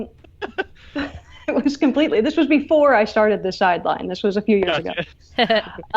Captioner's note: laughs